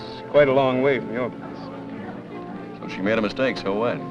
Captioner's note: none